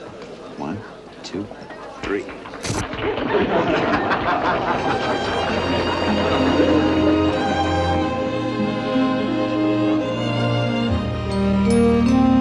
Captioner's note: laughter